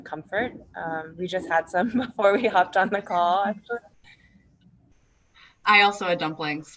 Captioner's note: laughs